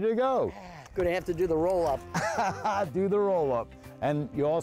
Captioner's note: laughing